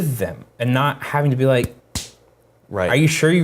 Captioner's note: slams fists